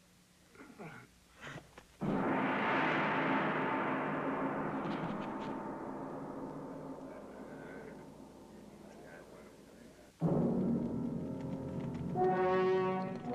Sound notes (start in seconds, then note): 2.0 gong banging; 10.4 ominous music